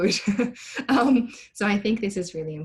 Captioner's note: laughs